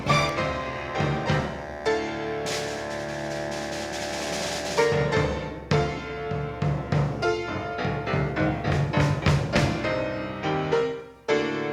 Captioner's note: urgent tone resumes